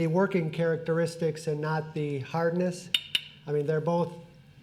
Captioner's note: taps glass